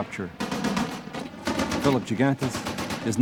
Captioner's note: shots blasting